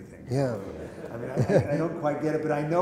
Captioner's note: laughter